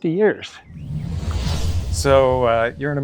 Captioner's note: air whooshing